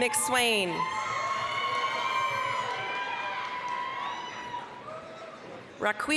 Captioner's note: applause, cheering